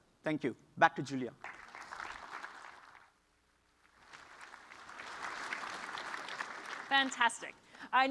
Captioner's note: applause